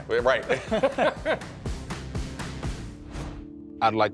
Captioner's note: laughing